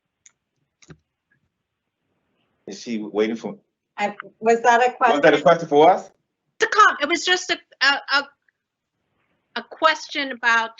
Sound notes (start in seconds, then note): 1.5 silence